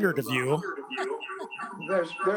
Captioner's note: voice echoing